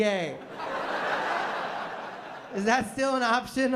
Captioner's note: laughter